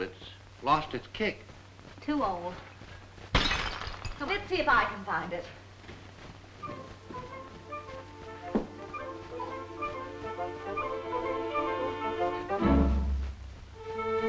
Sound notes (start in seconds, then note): 3.3 glass shattering; 6.8 upbeat music; 12.8 dramatic music; 14.0 ominous music